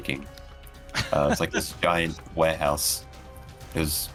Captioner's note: jaunty chuckle